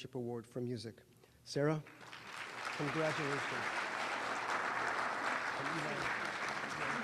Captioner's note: applause